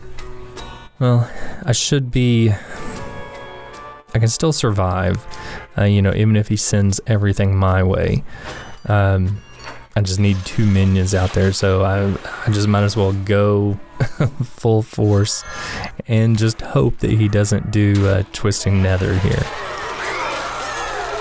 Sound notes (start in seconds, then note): 13.9 haha